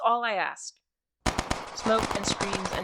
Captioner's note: echos of battle